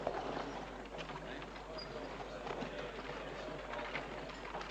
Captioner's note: voices chattering